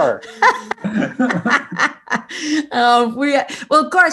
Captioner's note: laughing